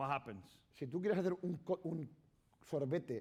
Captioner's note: speaking spanish